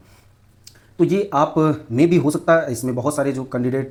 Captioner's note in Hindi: नाक से की जाने वाली आवाज़